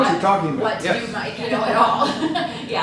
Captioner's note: laughs